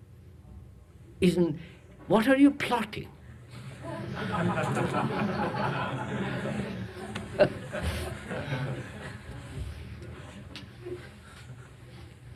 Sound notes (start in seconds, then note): 3.8 laughter; 3.8 laughs